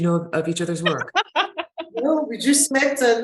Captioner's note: laughing